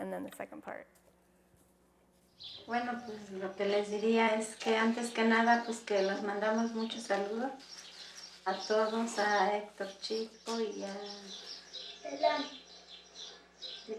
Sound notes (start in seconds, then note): 2.7 speaking spanish